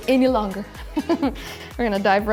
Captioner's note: giggling